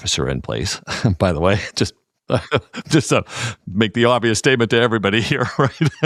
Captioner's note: laugh